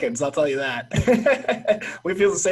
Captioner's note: laughing